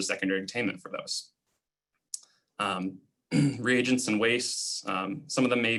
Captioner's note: clearing throat